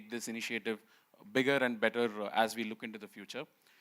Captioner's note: none